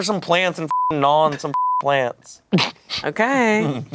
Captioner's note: beep